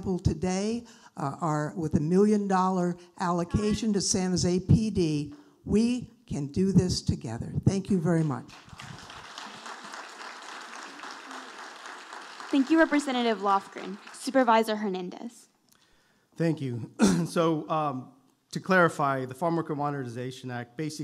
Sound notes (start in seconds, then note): 8.5 audience applauding